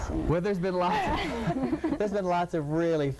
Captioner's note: all laughing